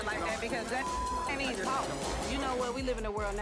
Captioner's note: beep